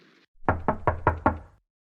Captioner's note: door knocking